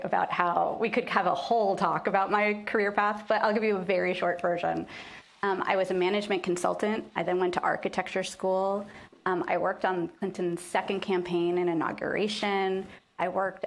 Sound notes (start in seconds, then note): none